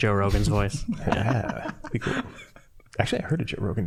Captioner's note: all laughing